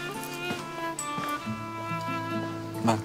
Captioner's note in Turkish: Ayak sesi